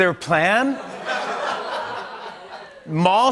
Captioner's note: laughter